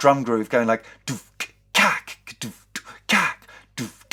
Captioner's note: beatboxing